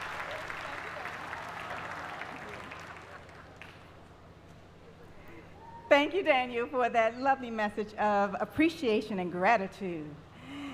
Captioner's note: applause